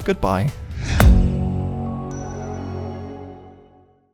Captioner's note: rocket whooshes